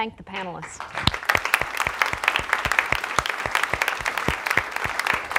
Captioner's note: audience clapping